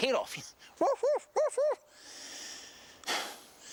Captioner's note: barking